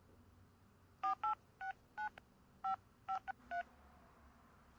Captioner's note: phone dialing